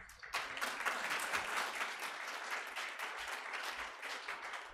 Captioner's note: audience applauding